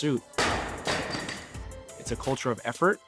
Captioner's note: thudding